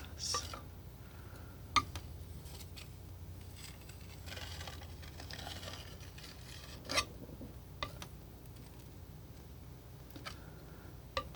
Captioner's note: tapping